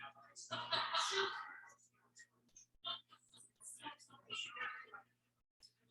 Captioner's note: people chattering indistinctly